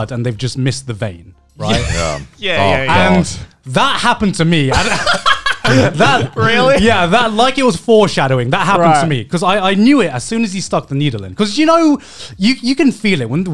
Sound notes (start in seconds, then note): 1.6 laughing; 4.7 laughing